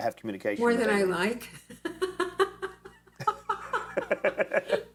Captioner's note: laughs